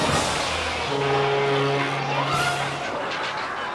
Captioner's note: onlookers gasp; foghorn blares; audience laughing